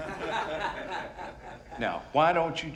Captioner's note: laughing